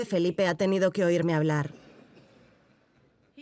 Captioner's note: audience laughing